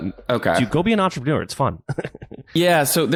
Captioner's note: laughs